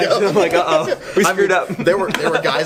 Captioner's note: laughing